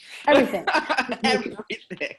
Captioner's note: laughing